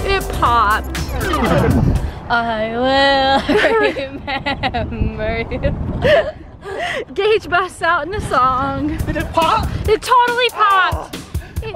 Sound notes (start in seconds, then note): 5.9 laughing